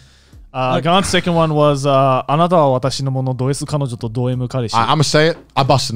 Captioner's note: speaks in foreign language